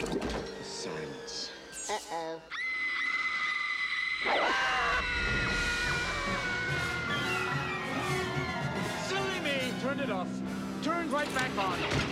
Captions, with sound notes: THE SILENCE. UH-OH. - [ Screaming ] - [ Screams ] SILLY ME TURNED IT OFF. TURNS RIGHT BACK ON.